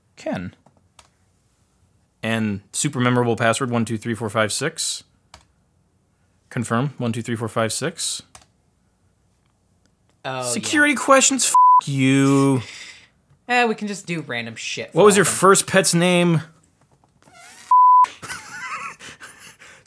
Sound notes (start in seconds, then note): 11.5 beep; 17.7 beep; 18.1 laughs